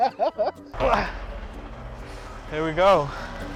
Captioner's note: both laughing; grunts